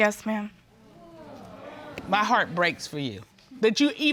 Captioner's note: audience exclaiming